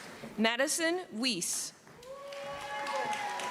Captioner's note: cheering